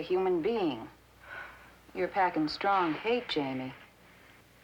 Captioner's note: sighing